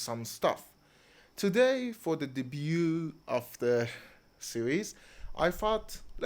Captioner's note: with French accent